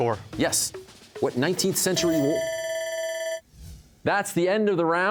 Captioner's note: bell ringing